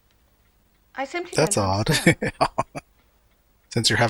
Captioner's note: laughing